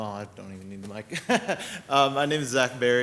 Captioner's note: laughs